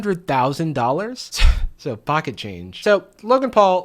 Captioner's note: chuckles